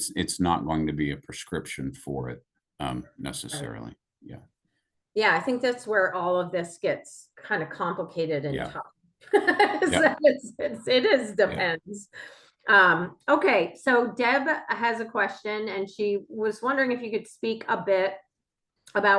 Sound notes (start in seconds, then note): 9.4 laughs